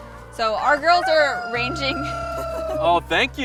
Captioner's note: rooster crows; chuckling